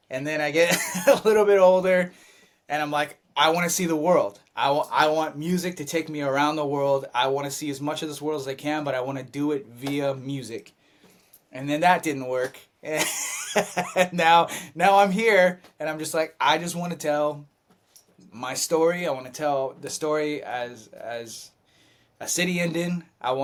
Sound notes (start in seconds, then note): 13.0 laughs